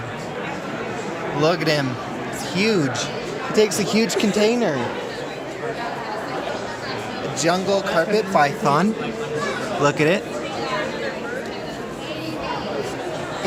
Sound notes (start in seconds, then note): 10.5 blah blah blah, said the murmuring crowd